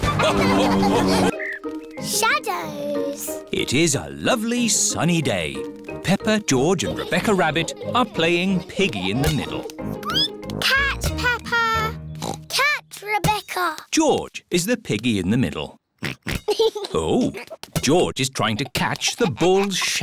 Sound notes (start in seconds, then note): 0.0 all laugh; 9.6 squeaks; 12.2 oinks